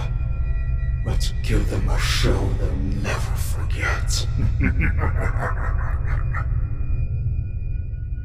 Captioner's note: menacing laughter